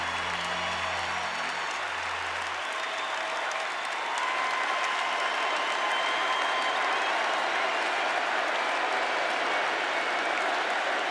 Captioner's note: cheers and applause